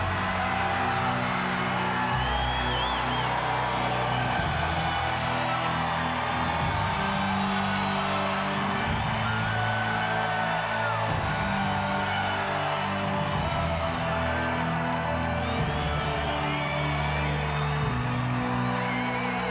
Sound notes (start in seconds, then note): 5.5 crowd cheering continues; 5.5 sinister music continues